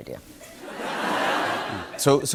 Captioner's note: laughter